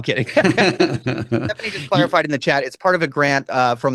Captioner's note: laughs